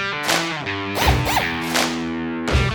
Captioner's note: drill whirring twice